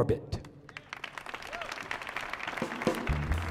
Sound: audience applauding

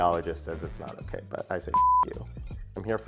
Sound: beep

